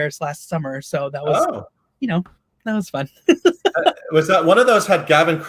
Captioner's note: laughs